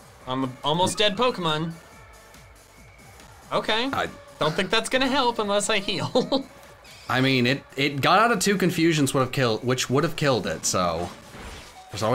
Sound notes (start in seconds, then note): 5.8 chuckles